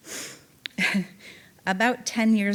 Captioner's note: chuckling